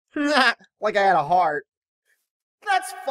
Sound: laughs

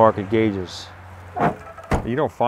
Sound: car door shuts

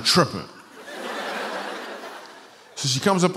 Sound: laughter

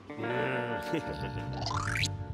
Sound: chuckles

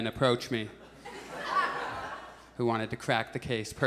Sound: audience chuckles

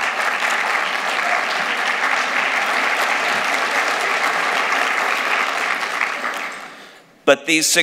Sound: applause

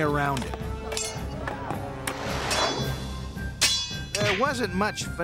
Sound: clattering

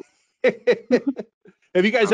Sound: laughing

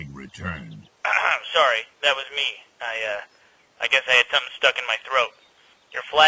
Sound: clears throat

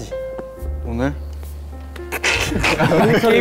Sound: buzz

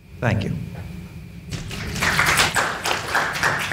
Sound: panel applauds

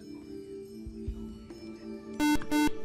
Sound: buzzer

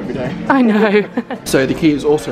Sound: laughing

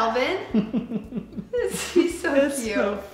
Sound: giggles

